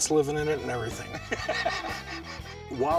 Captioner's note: laugh